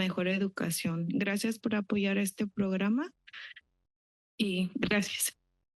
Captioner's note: foreign language